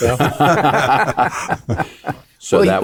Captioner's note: panelists laughing